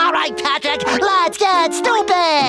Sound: laughs

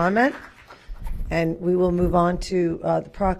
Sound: applause

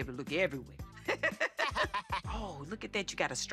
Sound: laughter

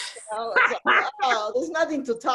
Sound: laughs

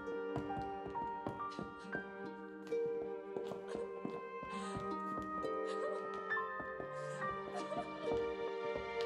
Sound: sobbing

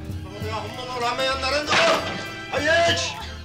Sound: man yelling at woman

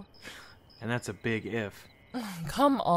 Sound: scoffs

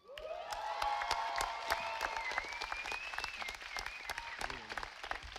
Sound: audience applauding

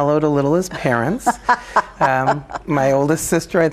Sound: laughing

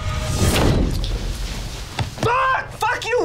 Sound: door slams shut

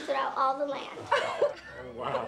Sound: laughing

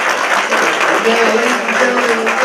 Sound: applause

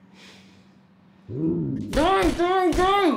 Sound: zombie growls

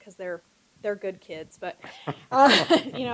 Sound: laughter

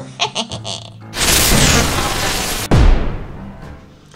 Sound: laughs; zapping

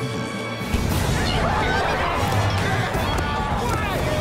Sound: screaming, fighting

